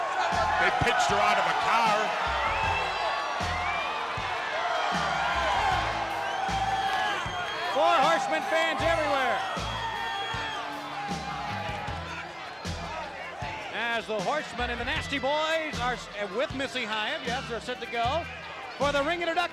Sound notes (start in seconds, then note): 3.0 crowd cheering; 13.2 crowd chatter